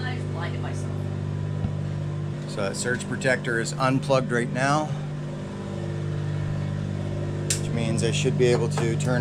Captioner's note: generator noise